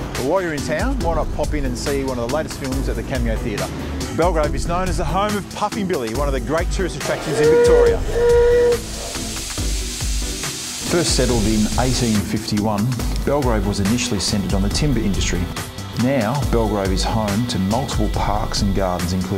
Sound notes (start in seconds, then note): 7.2 train whistle blaring; 9.1 steam hissing